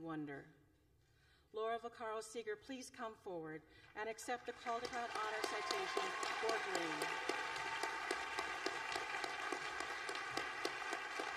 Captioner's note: applause